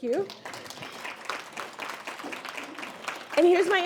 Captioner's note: audience applauds